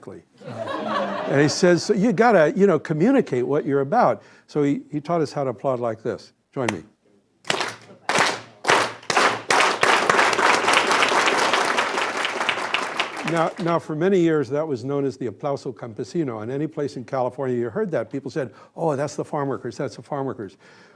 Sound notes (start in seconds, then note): 0.4 laughter; 8.0 slow clapping gradually speeding up